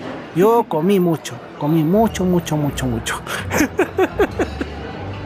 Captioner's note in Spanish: risas